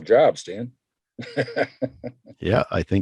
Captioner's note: laughs